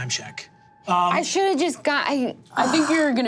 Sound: groans

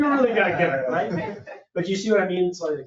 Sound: people chatter

